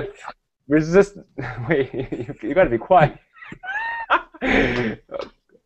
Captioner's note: laughing